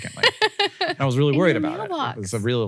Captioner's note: Rachel laughs